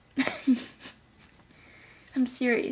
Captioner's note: laughing